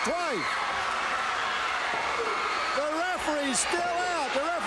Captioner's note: crowd cheering